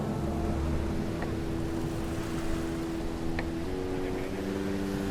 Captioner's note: breaking waves